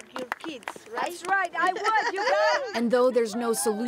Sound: applause

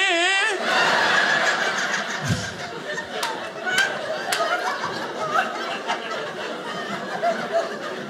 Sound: audience laughing

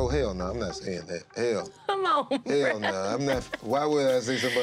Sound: laughing

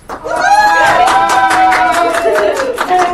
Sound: applause

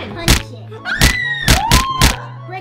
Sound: whacking noises; kids screaming

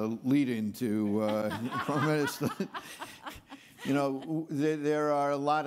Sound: laughs; laughing

